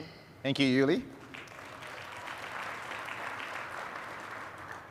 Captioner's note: applause